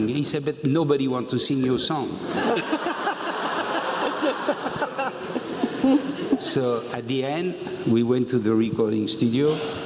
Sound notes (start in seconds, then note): 4.1 laugh